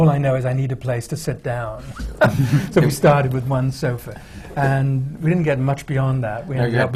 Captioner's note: laughter